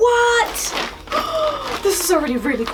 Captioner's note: gasp